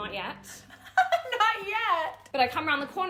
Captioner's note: laughing